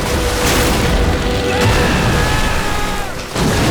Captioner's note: screaming